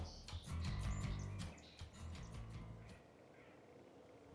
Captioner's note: birds tweeting